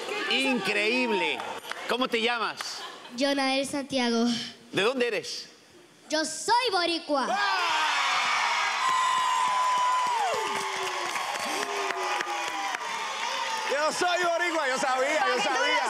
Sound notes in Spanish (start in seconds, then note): 7.2 gritos y exclamaciones; 13.5 aplausos